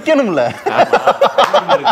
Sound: men laugh

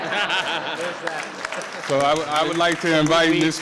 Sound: all laughing; audience clapping

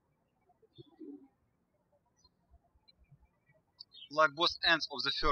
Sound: birds chirping

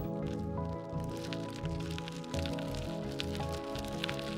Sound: gravel crackles

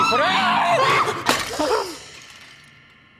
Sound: Judy screams, and then everyone screams; shatter

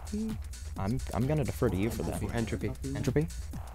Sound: wispering

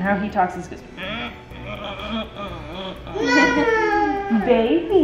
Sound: grunting

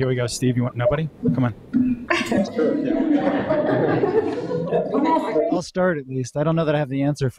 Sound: laughter

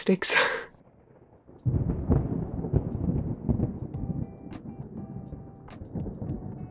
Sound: music and thunder

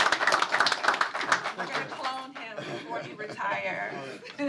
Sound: applause

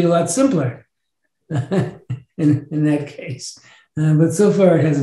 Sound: chuckles

